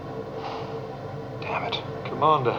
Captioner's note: suspira